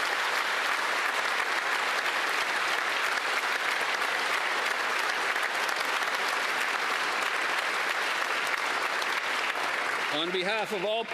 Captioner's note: applause